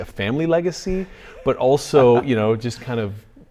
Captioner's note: laughs